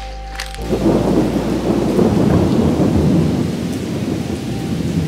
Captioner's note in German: Lauter Donner